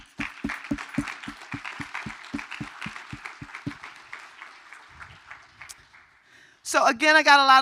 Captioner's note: applause